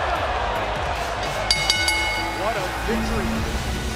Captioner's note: bell ringing